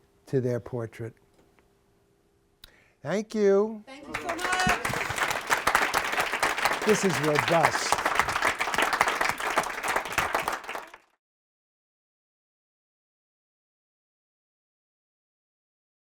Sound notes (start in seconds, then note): 4.0 applause